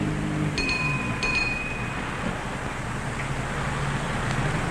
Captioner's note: bell chiming